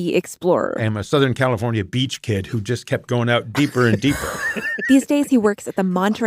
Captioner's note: laughs